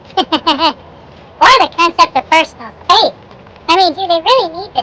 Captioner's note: laughing